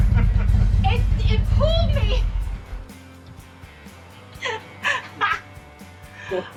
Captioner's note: laughs; laughs